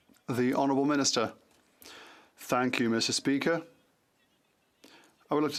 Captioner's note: chatter